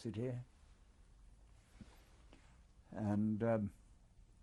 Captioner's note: pauses for 3 seconds